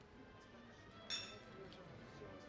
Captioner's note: glasses clink